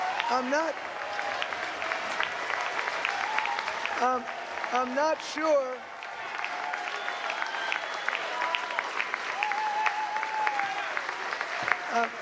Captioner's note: applause